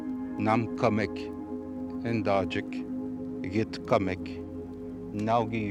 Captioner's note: speaking foreign language